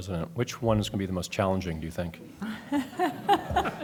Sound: laughter

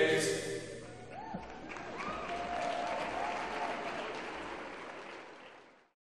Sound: applause

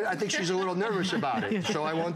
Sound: laughter

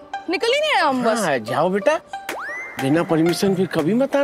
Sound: none

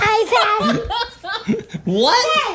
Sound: laughing

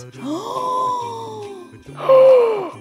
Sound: loud gasp

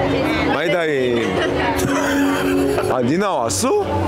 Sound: laughing

